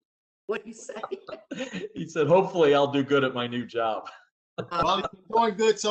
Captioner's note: laughter; laughter